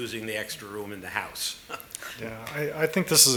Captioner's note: laughter